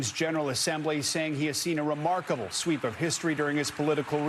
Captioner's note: applause